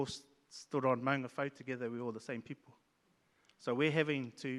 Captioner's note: speaks in Maori